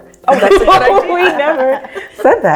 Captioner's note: all laugh